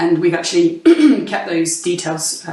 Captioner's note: clears throat